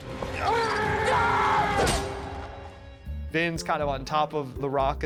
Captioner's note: screaming